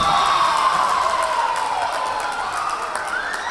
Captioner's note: whistle blowing; cheering; clapping